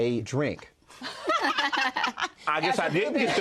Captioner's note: laughter